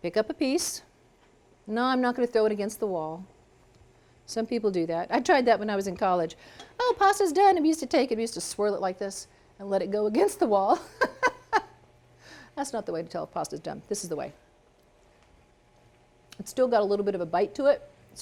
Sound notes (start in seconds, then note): 10.8 laughs